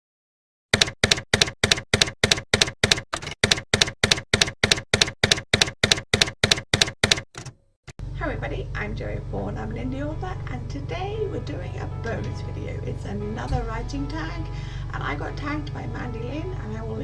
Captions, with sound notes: [TYPEWRITER KEYS CLACKING] Hi everybody! I'm Joey Paul and I'm an indie author. And today we're doing a bonus video, it's another writing tag and I got tagged by Mandi Lynn and I will